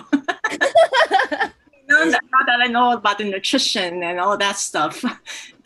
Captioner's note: laugh; laughs